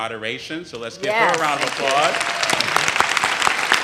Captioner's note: audience cheers